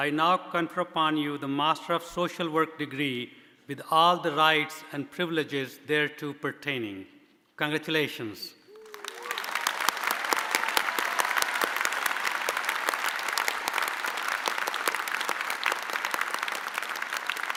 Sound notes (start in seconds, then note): 8.7 audience applauding